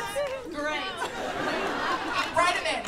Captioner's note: laughter